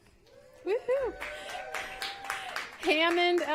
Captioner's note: applause